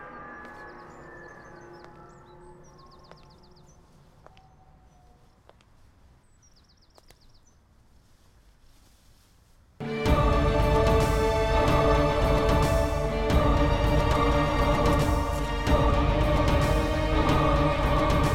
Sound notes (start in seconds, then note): 2.9 footsteps; 9.8 background music